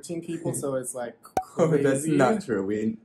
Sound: pop

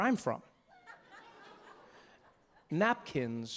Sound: audience laughing

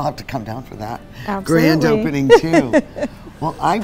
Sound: laughs

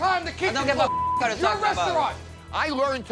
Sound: beep

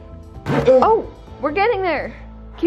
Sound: lid scraping

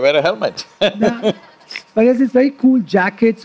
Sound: few laugh

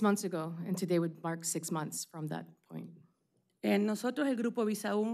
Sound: speaking spanish

